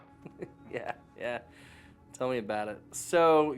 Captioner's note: laughs